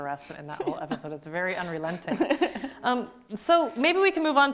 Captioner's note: both laughing